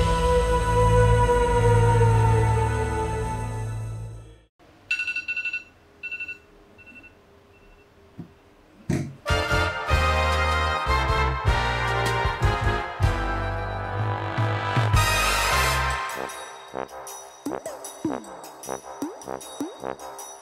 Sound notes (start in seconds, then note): 6.0 alarm rings; 9.2 upbeat jazz music